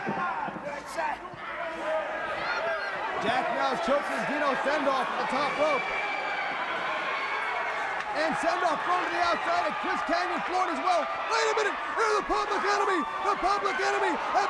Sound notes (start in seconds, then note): 0.1 crowd chatter; 6.9 crowd cheering